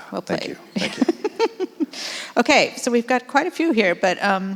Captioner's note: laughs